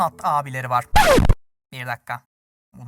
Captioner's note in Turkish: Plak cızırtısı